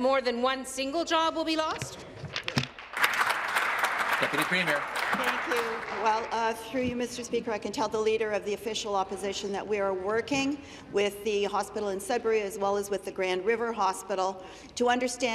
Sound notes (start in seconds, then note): 5.1 applause